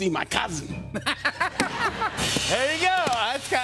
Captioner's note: laughter